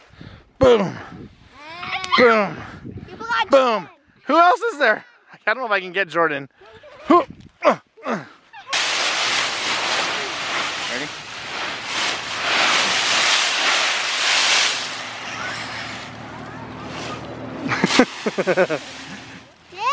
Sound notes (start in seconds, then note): 8.9 rustling; 17.6 laughing